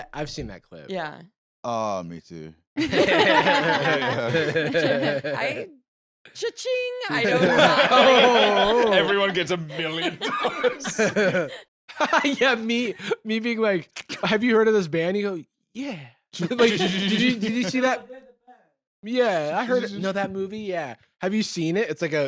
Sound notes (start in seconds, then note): 2.8 all laughing; 7.1 all laughing; 11.9 laughs